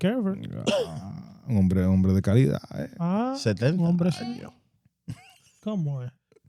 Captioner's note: laughing; speaking In Foreign Language